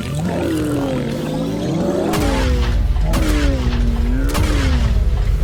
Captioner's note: gunfire